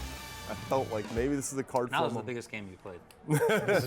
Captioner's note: laugh